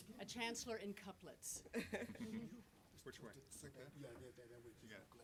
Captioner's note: laughter